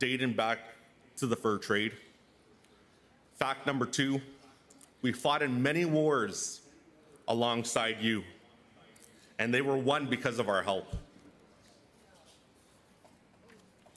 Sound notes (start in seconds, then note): none